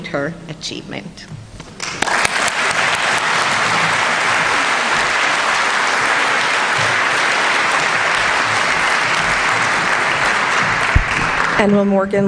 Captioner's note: applause